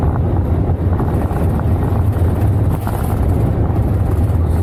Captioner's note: rattling noise